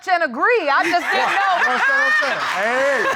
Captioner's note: laughing